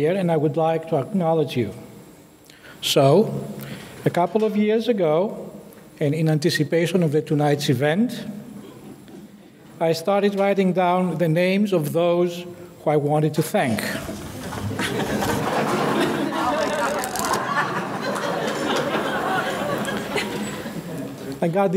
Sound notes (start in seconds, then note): 16.5 index cards flipping; 19.1 audience laughing